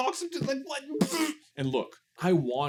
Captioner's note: pshzzzzzt of frustration